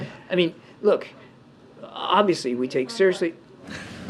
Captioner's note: laughter